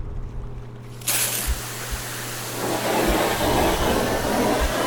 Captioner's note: hose hissing